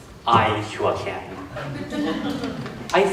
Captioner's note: laughter